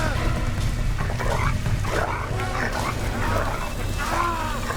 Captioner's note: dog snarling